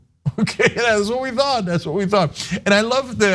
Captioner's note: laugh